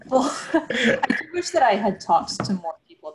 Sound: laughs

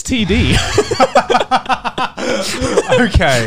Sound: all laughing

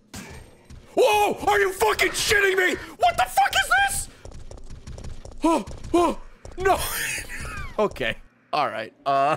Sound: screams; laughs

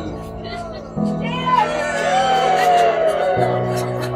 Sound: cheers

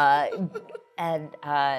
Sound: laughs

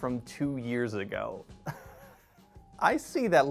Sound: laughing

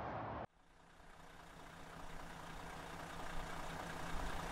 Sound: engine whirring

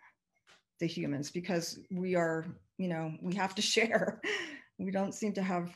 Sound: chuckles

